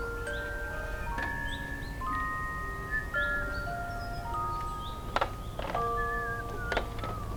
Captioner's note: whistling